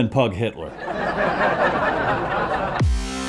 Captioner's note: studio audience laughing